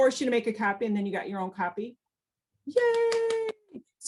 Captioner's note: claps